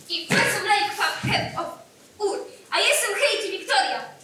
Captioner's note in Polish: Po islandzku